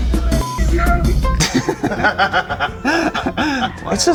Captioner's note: both laugh